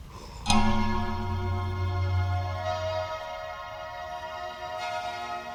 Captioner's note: A clock chimes as music begins